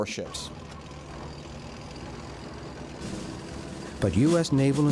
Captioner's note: engines rumbling